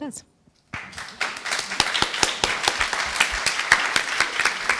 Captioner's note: applause